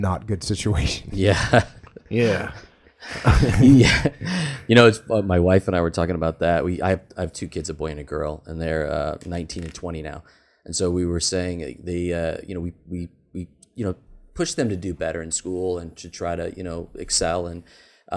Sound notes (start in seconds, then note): 3.0 laughs